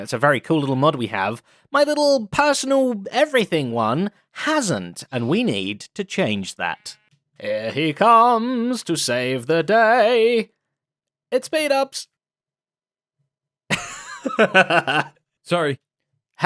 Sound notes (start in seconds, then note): 13.7 laughs